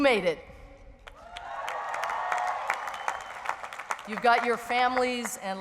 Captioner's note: audience cheers